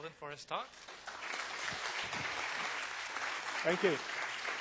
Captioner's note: audience applause